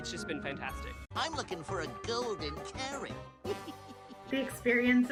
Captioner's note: chuckles